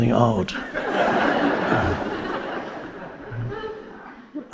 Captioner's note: audience laughing